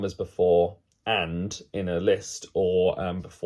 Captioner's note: none